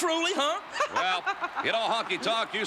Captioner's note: laugh